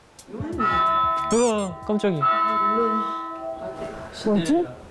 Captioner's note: The bell rings at TREASURE CASTLE